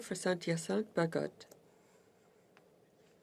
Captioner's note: speaking in French